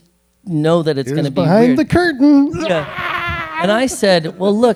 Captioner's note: fake screams